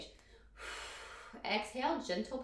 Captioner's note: exhales breath